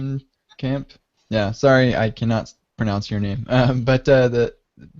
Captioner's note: chuckles